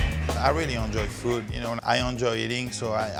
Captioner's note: French accent